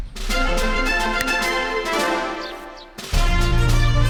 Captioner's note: snaps fingers